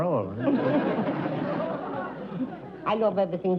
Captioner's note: laughter